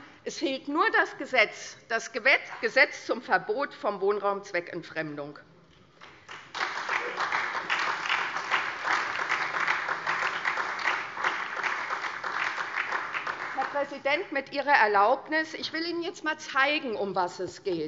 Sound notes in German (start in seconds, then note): 6.0 Beifall SPD und DIE LINKE